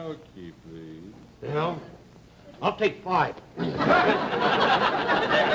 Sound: audience laughter

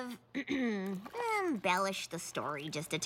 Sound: clears throat

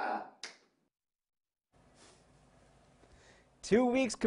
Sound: sound cuts ou

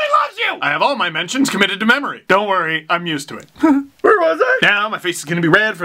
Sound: whimper

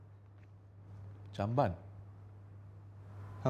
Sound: in Bahasa Melayu

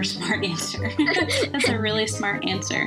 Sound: both laughs

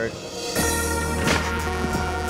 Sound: rubber striking concrete

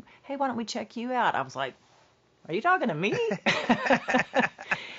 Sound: laughs

